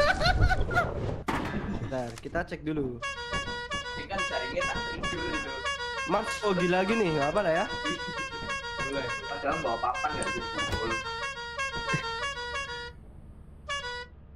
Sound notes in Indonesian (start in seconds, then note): 2.9 honk honk